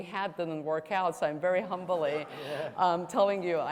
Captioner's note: audience laughs